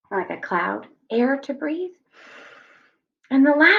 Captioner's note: inhales